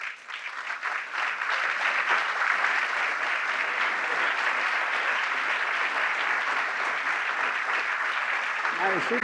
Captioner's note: applause